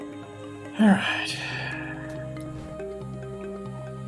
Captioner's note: sighs